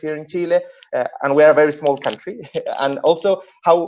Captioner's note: laughing